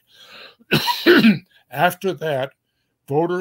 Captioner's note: cough